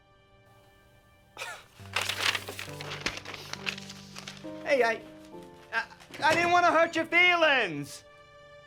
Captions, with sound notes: (gentle stirring music) (letter crumpling) Hey, I, I didn't wanna hurt your feelings.